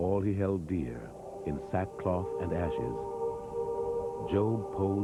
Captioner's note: chanting